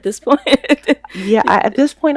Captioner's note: laughs